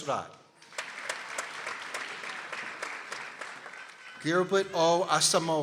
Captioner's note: people applauding